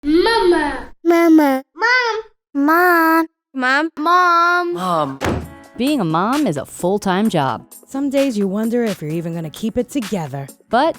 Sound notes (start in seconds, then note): 5.2 banging